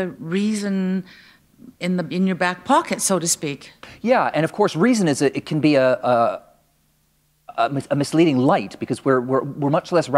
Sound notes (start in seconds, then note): none